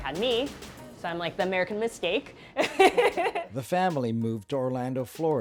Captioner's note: laughs